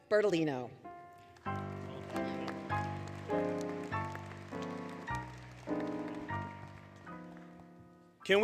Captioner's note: applause, Music